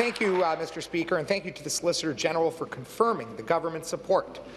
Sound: applause

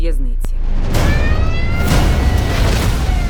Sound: siren wailing; music intensifies

